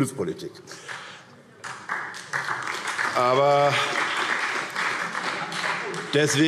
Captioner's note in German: Beifall SPD